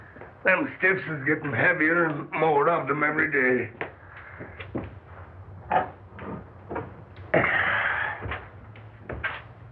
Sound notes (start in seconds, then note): 7.4 sigh